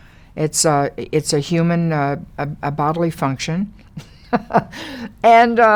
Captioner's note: Lily laughs